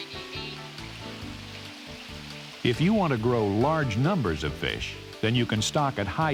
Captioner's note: voiceover